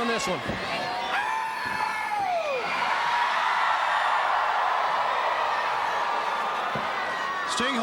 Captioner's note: crowd cheering